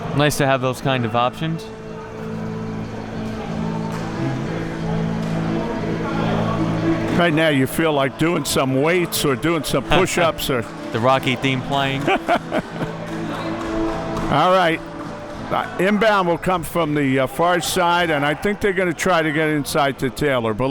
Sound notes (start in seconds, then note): 11.9 laughing